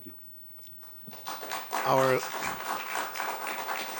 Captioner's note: applause